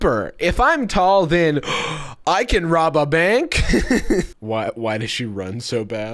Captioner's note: gasps; laughs